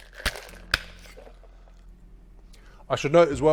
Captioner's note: thuds